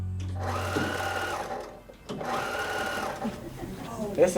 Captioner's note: machine whirring